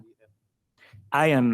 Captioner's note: speaks faintly